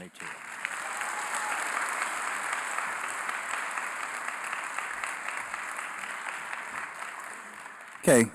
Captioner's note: applause